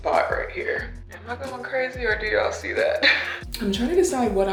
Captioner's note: scoffs